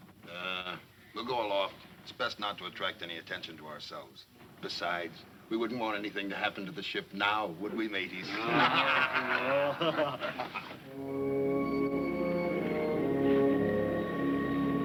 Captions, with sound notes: - Ah, we'll go aloft. It's best not to attract any attention to ourselves. Besides, we wouldn't want anything to happen to the ship now, would we mateys? (men laughing) (light adventurous music)